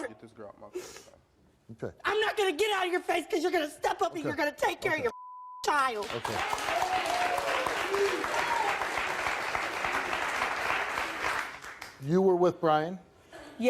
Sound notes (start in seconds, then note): 5.0 beep; 5.9 audience clapping and cheering